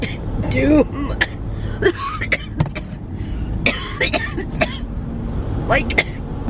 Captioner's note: coughing